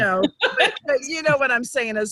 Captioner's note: laughing